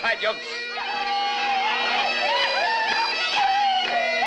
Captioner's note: laughing, shouting